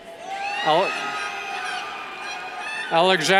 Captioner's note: cheers